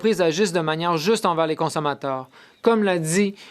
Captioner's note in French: voix de l'interprète